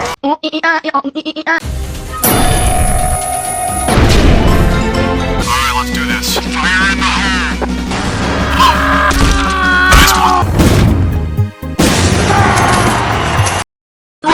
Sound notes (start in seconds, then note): 3.8 explosion; 7.8 explosion; 8.3 distant screaming; 9.4 closer screaming; 12.2 screaming